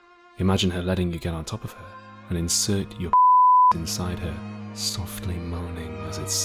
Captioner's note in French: bip